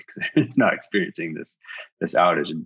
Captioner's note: person laughing